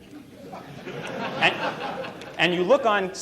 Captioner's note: laughter